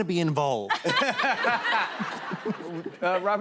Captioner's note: laughter